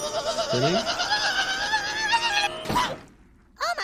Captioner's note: Kenny screaming